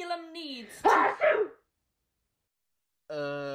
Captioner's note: sneezes